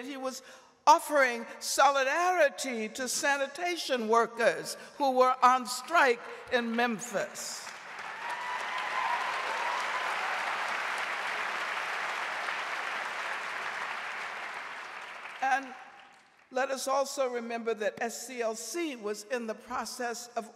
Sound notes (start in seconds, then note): 7.6 audience applauding